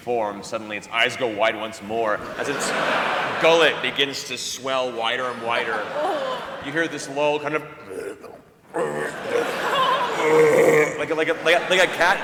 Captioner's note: retching